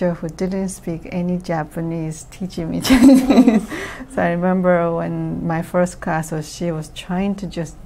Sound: laughs

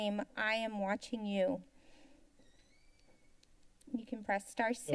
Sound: silence

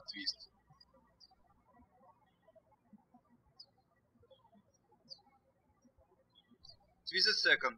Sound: birds chirping

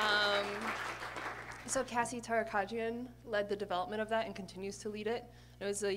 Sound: applause

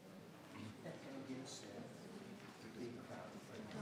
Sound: members chattering

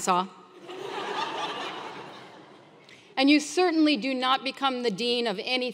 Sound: laugh

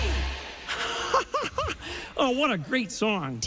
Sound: laughs

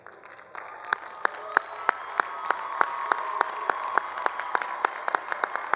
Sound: all applauding; all cheering

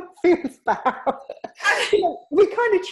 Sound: laughing

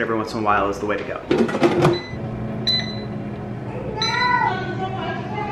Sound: beeping noise

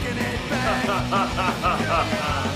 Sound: Dameon laughing

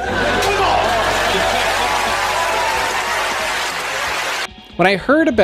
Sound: crowd laughs

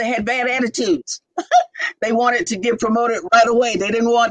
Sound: laughter

